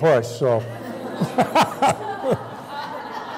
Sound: laughing

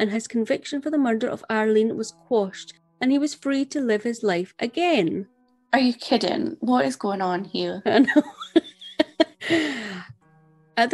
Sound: laughs

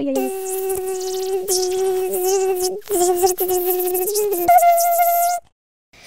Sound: buzzing

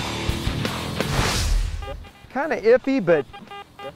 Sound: whooshing

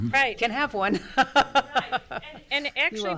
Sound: laughs

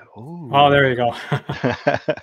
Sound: laughs

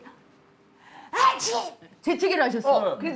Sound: sneezed loudly

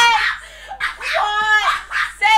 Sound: laughs like a manaic in the background

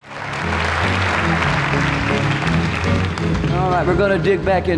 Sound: audience applauding; upbeat pop music

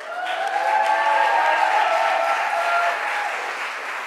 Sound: crowd applauds

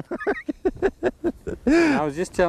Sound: laughter

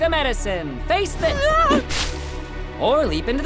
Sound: yelling

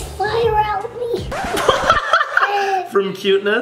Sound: record scratching; laughing loudly

